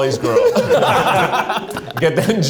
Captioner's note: group laughs